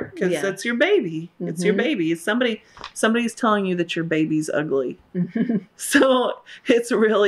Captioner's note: laughter